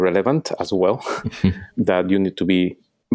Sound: laughing

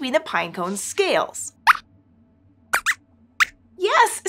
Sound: squeaks squeaks

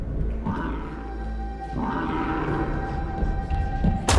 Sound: creature groaning

